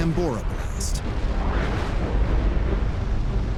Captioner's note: deep rumble; violent thunder